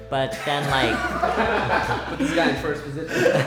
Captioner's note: everyone laughing